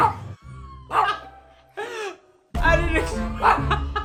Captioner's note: laughs